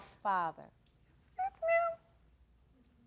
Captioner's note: whimpering